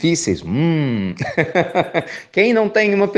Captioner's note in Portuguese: risos